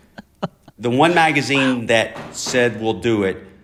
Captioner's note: laughter